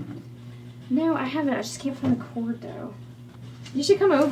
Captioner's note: none